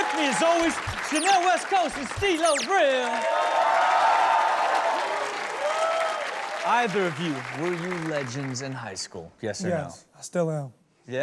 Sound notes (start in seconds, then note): 3.4 audience cheering